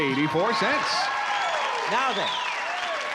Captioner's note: applause